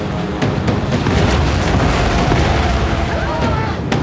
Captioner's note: tires screeching; yells